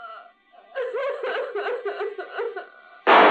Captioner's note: woman sobbing; gunshot